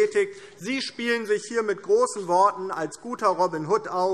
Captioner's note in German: none